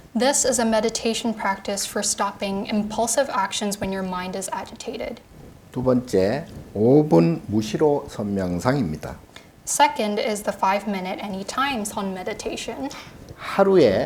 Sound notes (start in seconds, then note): 5.7 speaking Korean